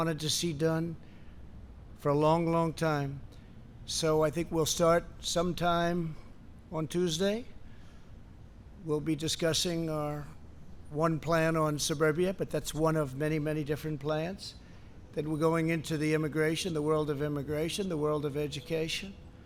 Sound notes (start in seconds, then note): none